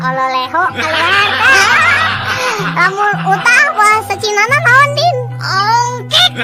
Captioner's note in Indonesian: tertawa